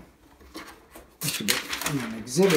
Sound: paper rustling

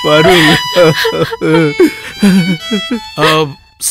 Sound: crying

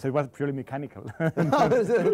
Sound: laughter

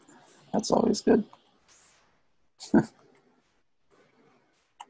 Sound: laughs

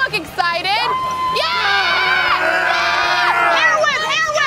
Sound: people cheer

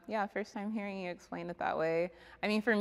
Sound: none

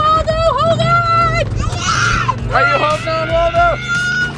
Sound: screams

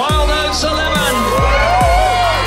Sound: various clapping and cheering

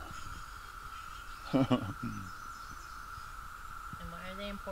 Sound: laughs

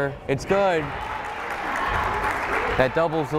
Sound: crowd applauding

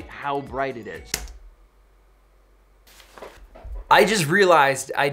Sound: clicks keyboard

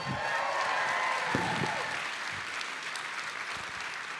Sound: audience applauding

